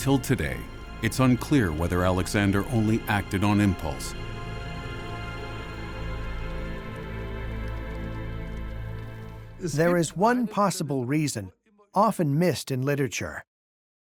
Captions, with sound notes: Until today it's unclear whether Alexander only acted on impulse. [in German] There is one possible reason, often missed in literature.